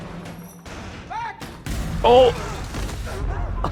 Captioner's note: bomb explodes